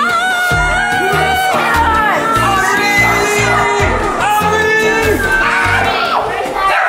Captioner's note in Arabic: ضيوف يصرخون; كلب ينبح